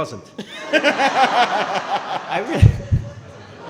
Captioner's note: laughing